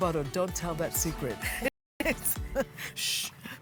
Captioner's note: they both laugh